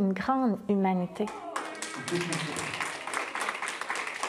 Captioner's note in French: applaudissements; petit rire